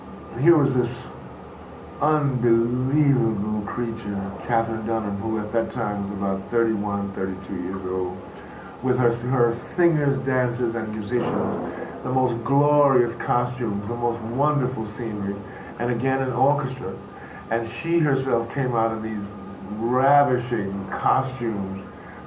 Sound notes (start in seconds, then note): none